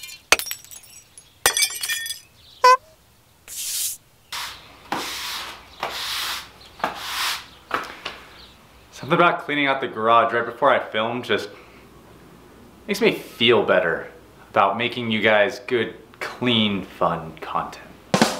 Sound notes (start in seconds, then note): 1.7 glass breaking; 2.7 horn honking; 18.2 drum banging